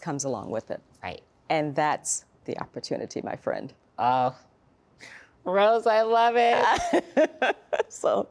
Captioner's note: laughter